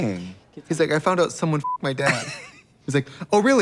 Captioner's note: beep